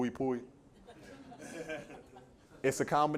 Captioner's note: laughter